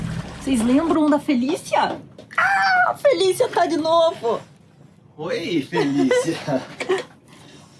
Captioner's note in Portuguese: risadas